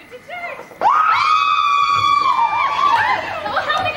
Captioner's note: screams